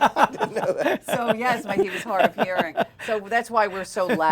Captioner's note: laughter